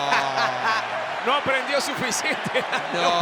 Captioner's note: laugh